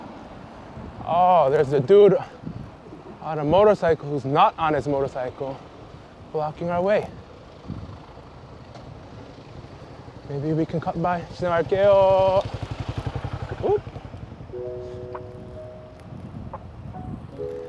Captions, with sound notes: Oh, there's a dude on a motorcycle who's not on his motorcycle blocking our way. Maybe we can cut by. (Speaking Korean) Passing by Whoop!